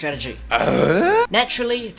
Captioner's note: confused noises